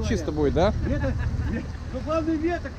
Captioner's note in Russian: смеются